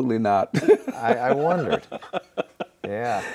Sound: laughing

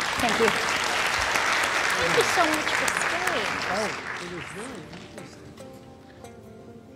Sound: applause

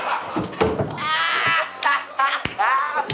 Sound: laughing

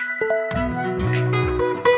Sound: phone chimes

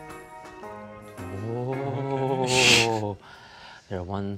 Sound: booing

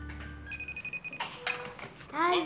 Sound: phone rings

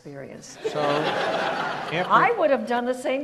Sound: audience laughs

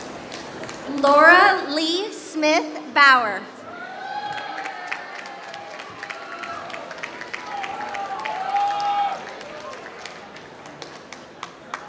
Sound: applause

